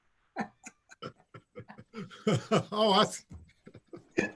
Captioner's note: laughter